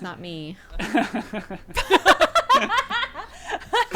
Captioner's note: group laughing